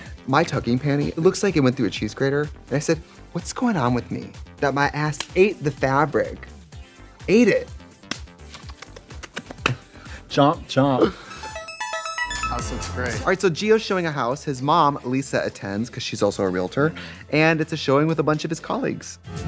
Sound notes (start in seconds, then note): 8.6 Trixie hungry nibbling; 11.7 upbeat music